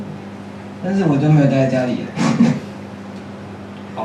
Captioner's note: laughs